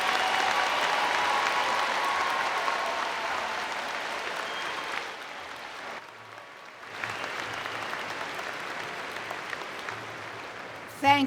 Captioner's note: cheering and Applause